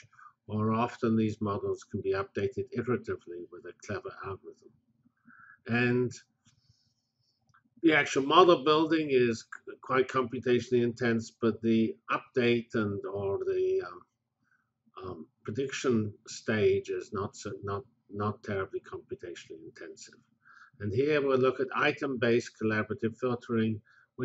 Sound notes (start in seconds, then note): 5.0 pause